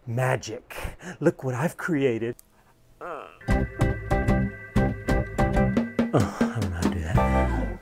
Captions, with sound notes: Magic, look what I've created. [Gasping] I don't know how to do that.